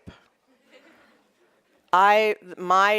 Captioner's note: audience chuckling